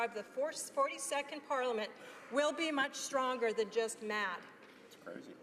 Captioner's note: none